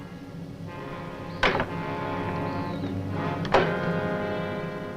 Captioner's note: door clacks